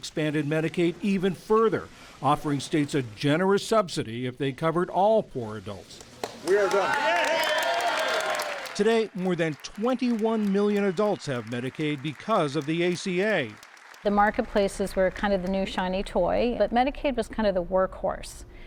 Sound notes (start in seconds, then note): 11.1 applause